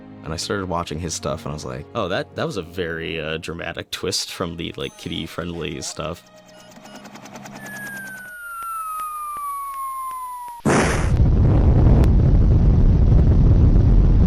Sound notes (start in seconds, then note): 6.6 missile whistles; 10.6 explosion booms